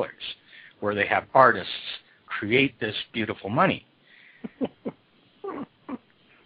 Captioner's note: laughs